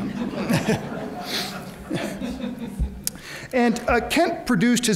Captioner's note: audience laughs